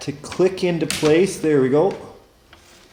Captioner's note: snap